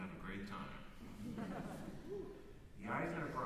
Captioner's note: chuckles